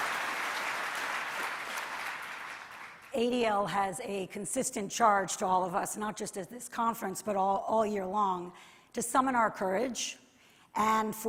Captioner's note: applause